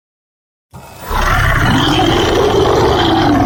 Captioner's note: monster Roar